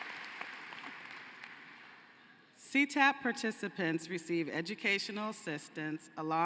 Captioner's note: cheering and applause